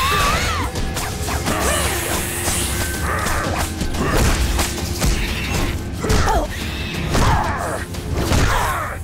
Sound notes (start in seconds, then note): 2.7 grunting; 5.6 grunting